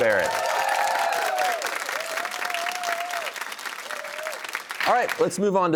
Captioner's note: cheers and applause